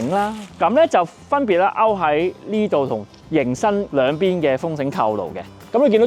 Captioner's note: wind rope buckle